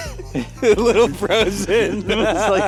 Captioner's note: laughs